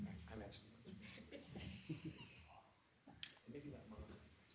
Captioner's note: people chuckling